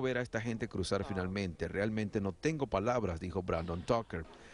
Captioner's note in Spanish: habla en ingés